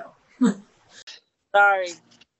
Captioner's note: chuckling